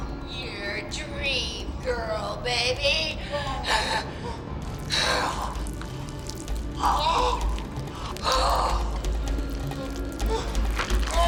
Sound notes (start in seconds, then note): 5.4 flesh squishing; 5.4 man shrieks